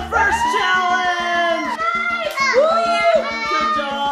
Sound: cheering

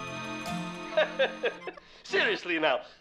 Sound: chuckles

